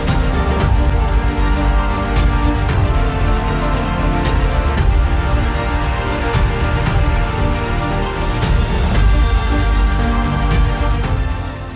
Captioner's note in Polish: Aplauz